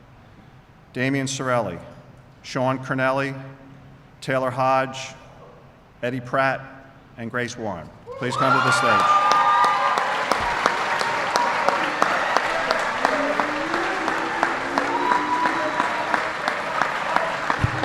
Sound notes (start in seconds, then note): 13.7 applause